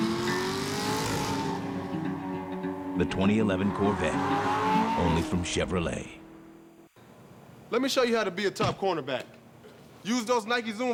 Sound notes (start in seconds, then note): 1.4 engine revving